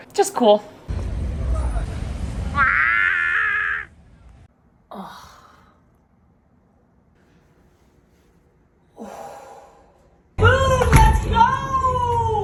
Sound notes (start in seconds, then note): 2.7 grunting; 4.9 exhales; 8.9 exhales